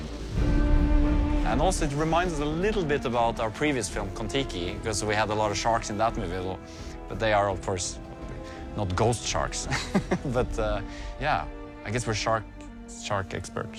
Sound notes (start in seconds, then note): 9.7 laughs